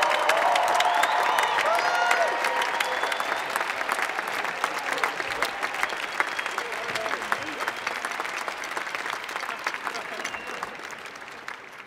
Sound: cheers and Applause

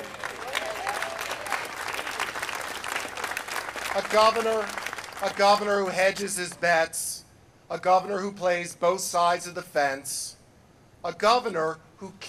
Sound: applause

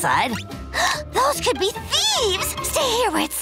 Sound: gasping

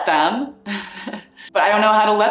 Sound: chuckling

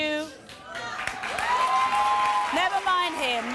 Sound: audience applause

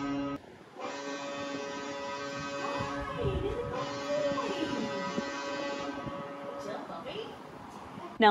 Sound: low pitched horn

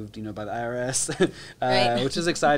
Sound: chuckles; laughs

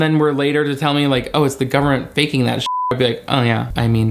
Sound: beep

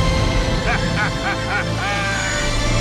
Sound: laughing

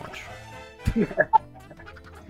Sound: laughter

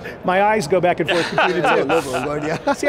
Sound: laughs

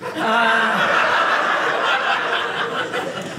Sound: audience laughing

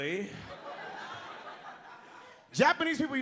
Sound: audience laughs

